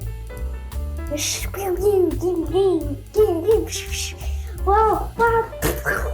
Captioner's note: various boat noises